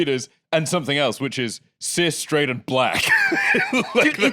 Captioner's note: laughs